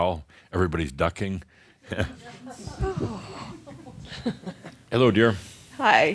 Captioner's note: chuckles